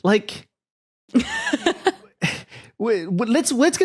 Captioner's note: laughs